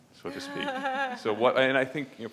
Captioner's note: laughs